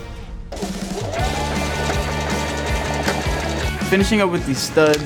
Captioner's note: sewing machine whirring; upbeat rock music